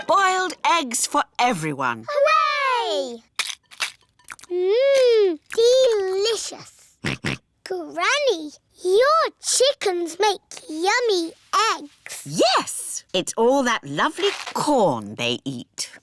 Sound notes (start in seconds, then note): 7.0 george oinks